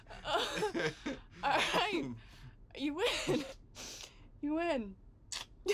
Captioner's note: laughs